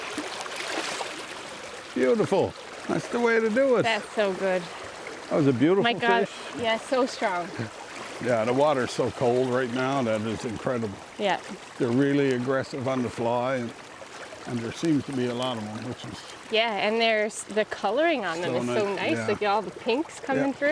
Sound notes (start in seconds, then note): 5.3 laughing; 6.9 water rippling